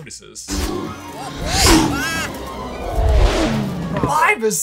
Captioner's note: whooshing sounds play